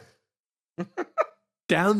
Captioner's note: laugh